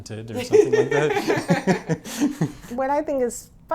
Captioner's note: laughs